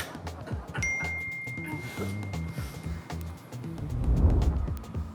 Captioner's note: audience laughs; phone dings; screen swooshes